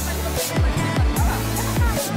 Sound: background chitchats

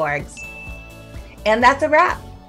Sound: bell chimes

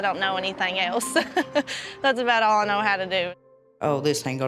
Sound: chuckles

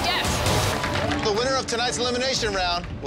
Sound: applauding

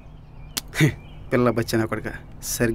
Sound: chuckles

